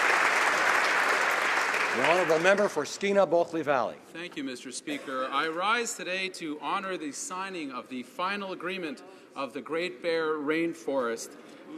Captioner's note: applause